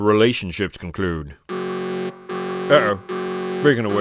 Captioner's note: warning siren buzzes